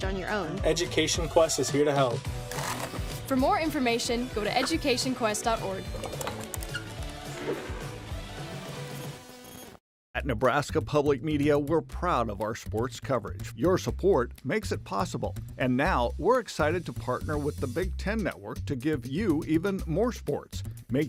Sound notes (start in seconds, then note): none